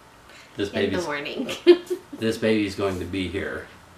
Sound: laughs

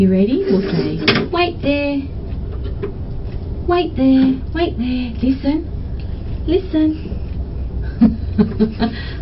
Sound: laughs

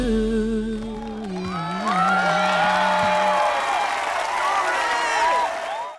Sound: cheering, applauding

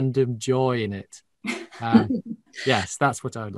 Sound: laughs

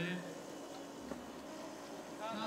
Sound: rushing

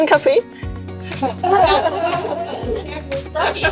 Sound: laughter

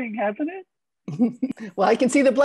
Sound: chuckles

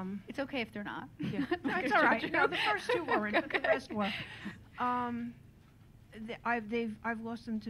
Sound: laughter

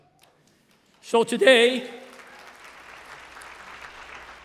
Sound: applause

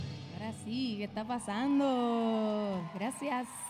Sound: speaking in Spanish; audience cheering

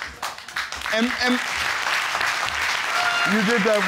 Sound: audience applauding

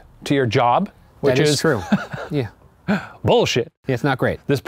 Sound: laughs

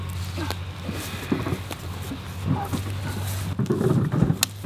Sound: grunting and crunching

